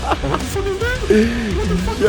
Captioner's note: laughing